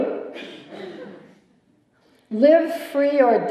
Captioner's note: laughter